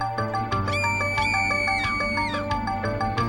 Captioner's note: screams